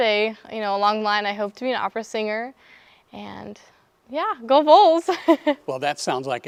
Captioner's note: laughs